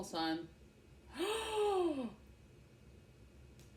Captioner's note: gasp